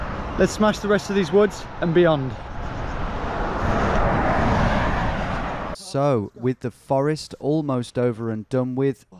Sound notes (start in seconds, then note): 2.9 sound of traffic going; 5.7 voiceover